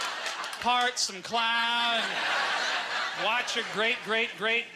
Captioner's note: audience laughter